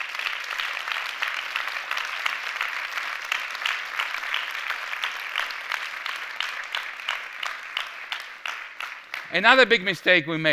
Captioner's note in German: Applaus